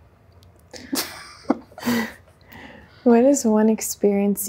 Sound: both chuckle

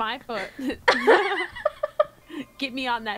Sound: laughter

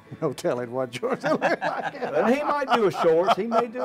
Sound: laughter

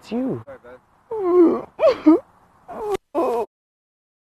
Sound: cries

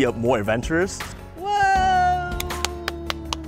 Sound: clapping

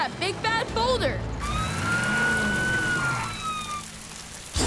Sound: sirens wailing

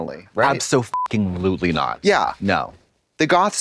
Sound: beep

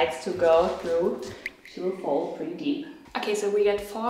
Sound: teardrop dripping

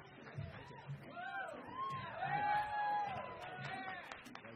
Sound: crowd cheers

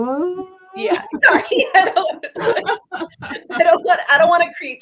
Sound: laughs

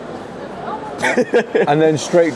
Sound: laughs off camera

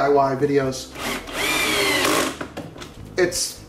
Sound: drilling sound

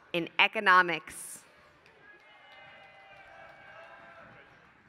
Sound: applause

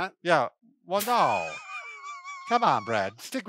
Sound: laughs

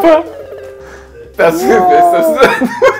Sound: laughter

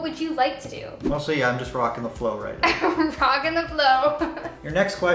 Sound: laughs

